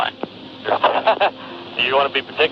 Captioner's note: flight crew member 1 chuckling